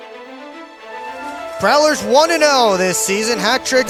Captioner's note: broadcast commentary